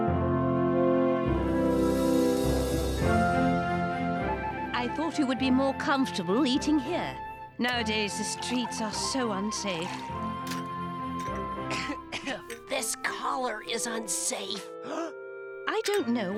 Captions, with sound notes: I THOUGHT IT WOULD BE MORE COMFORTABLE EATING HERE. NOWADAYS THE STREETS ARE SO UNSAFE. [COUGHING] THIS COLLAR IS UNSAFE.